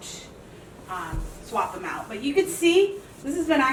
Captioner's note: sock rubbing